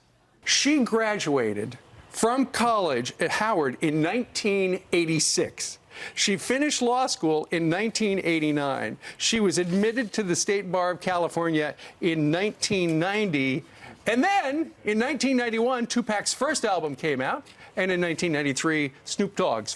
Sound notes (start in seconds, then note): none